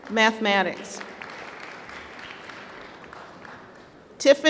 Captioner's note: applause